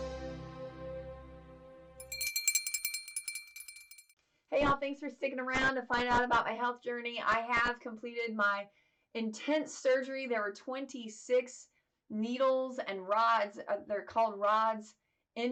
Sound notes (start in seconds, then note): 2.0 bell tinkles